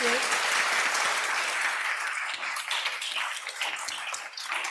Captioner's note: applause